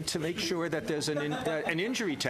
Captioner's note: laughter